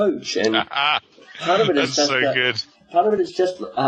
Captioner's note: laughing